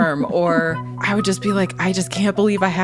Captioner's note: laughs